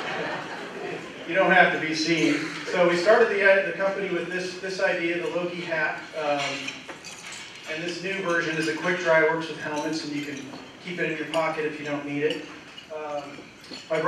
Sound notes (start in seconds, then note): 0.0 laughter